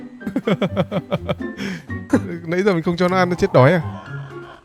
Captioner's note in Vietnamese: tiếng cười